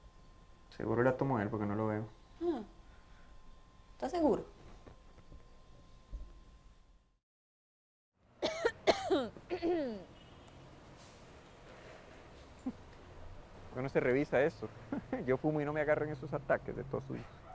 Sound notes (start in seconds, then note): 8.4 Melissa coughs